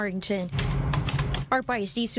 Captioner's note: nats: typing